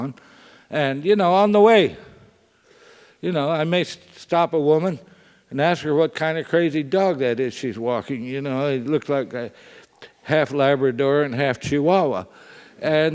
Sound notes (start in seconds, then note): none